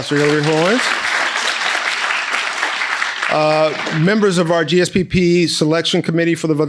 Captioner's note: people applauding